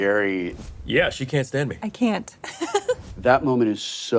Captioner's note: laughs